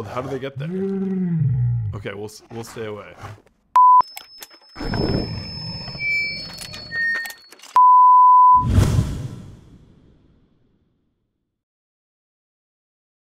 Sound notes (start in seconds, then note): 4.7 microphone feedback; 5.3 growls